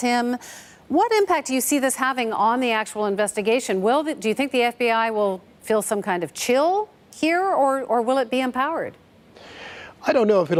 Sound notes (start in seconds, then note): none